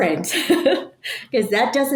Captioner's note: person laughing